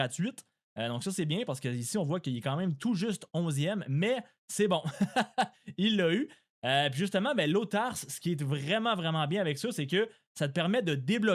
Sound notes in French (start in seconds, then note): 4.8 rires